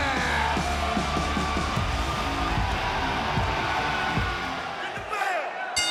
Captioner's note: rock music play; crowd cheers